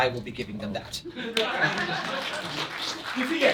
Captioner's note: applause